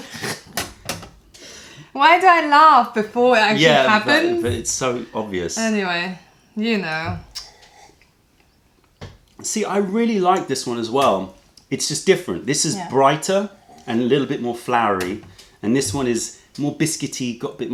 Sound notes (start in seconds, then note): 1.5 laughter